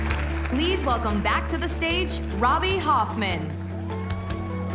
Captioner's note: cheers and applause